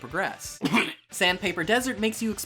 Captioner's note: holds back vomit